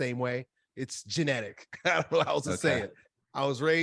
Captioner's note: laughs